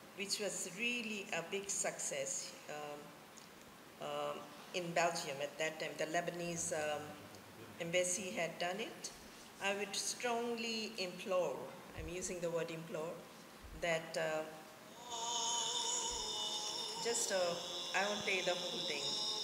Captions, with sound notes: which was really a big success in Belgium. At that time, the Lebanese embassy had done it. I would strongly implore, I'm using the word implore, that... (azan plays from phone) Just, I won't play the whole thing,